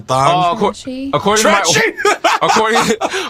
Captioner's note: laughs